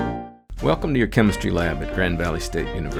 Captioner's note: voiceover